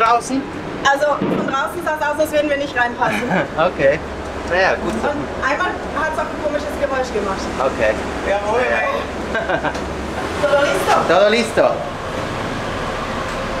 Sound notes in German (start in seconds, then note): 7.8 auf Spanisch